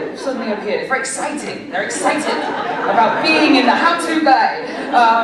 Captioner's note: laughter